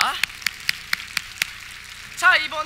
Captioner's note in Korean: 박수